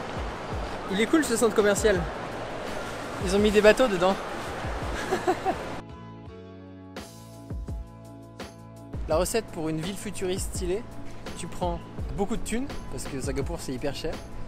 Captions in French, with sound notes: Il est cool ce centre commercial ! Ils ont mis des bateaux dedans ! *Hahaha* La recette pour une ville futuriste stylée, tu prends : Beaucoup de thune. Parce que Singapour c'est hyper cher